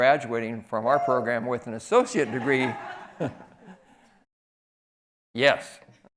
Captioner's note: man hoots